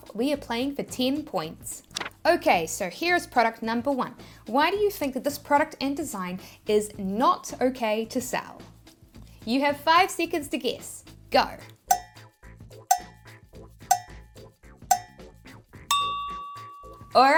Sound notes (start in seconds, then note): 1.9 paper rustling; 12.8 timer ticking; 14.9 timer dinging